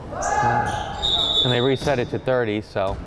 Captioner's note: whistle blowing; person yelling; whistle blowing